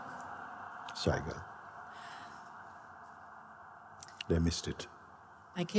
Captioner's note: sound of sirens receding